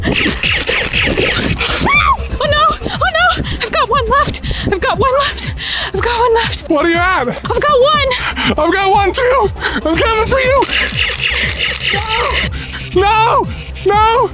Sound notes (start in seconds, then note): 10.6 Nerf blaster firing